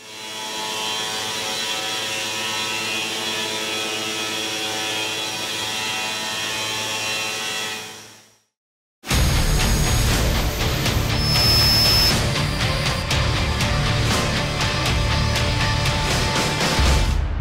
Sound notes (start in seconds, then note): 0.2 machine whirring; 9.0 rock music playing; 9.1 grinding sounds; 9.2 machine sound fades